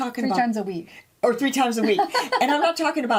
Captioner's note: laughing